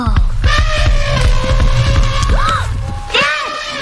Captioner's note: elephant loudly trumpeting; feet thudding; gasps